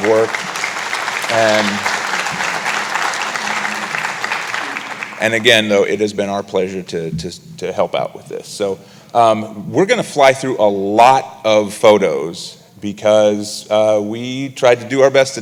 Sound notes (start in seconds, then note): 6.0 applause